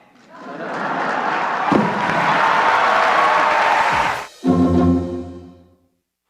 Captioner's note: applause